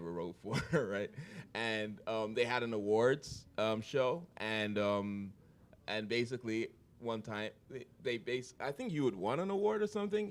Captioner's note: chuckle